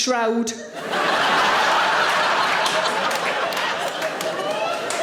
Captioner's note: audience laughing